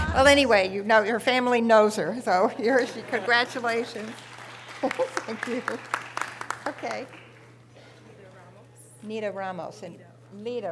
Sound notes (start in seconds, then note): 2.6 audience applause